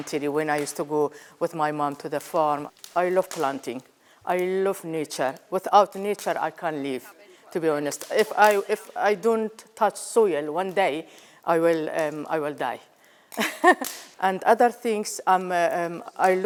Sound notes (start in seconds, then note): 13.4 laughs